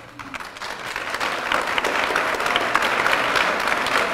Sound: applause

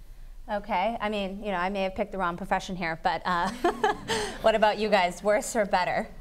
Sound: laugh

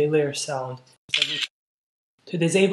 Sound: camera shutter sound

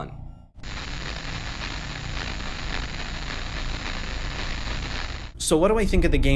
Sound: audio static

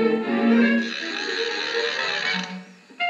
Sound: whirring

